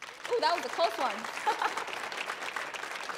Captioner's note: audience applauding